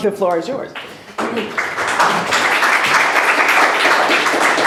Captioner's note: applause